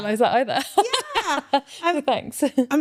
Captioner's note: laughing